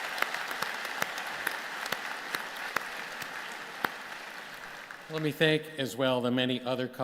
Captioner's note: applause